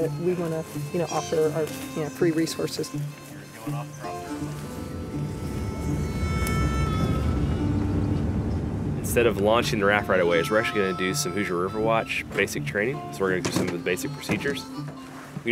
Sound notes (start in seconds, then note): 3.1 lighthearted acoustic music returns; 4.3 car whirring